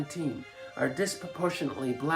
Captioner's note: chanting